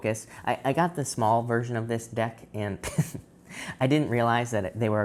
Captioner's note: chuckles